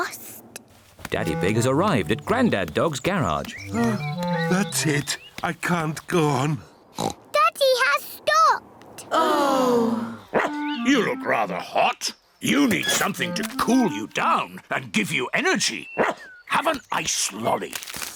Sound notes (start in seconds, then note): 6.6 oinks; 9.0 all sigh; 10.3 barks; 16.0 barks